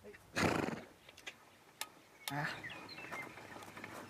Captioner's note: horse snorts